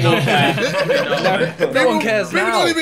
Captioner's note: laughing